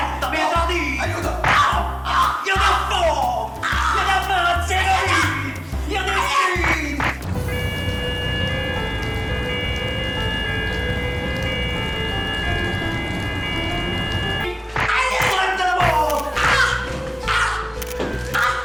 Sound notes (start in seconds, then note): 7.6 police sirens; 11.3 tensive music